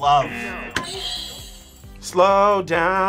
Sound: buzzer rings; buzzer

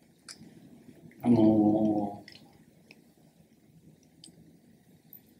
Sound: speaks Japanese

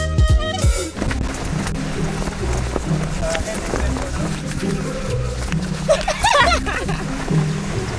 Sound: nervous laughter

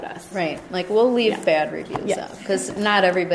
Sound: voiceover

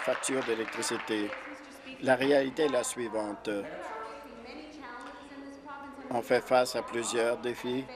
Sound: applause

